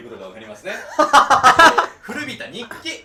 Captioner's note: laughing